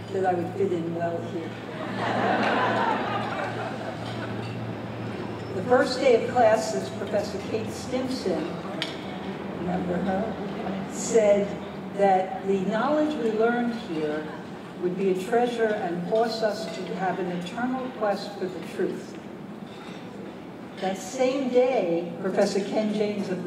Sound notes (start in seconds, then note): 1.7 laughter